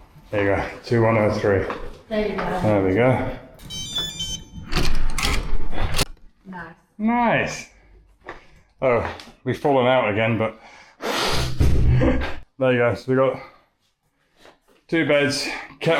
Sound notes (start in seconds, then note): 9.3 laughter